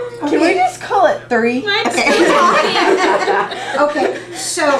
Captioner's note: laughter